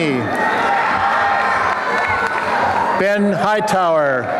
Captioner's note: applause and cheering